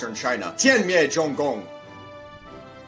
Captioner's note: speaks chinese